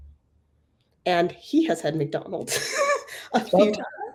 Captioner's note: laugh